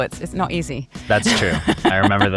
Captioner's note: laughs